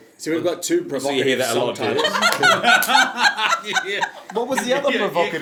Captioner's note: laughing